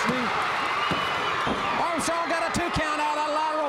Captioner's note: crowd cheering